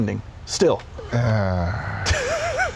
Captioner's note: sigh